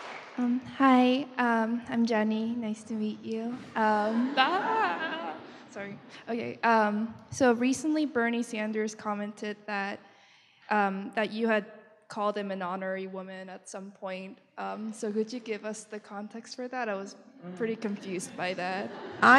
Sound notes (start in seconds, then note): 0.9 voiceover